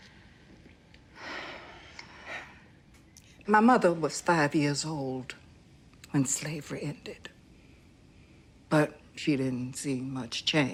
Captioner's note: sighs